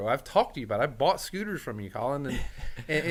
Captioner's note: laughing